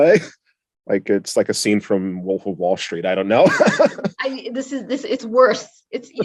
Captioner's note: laugh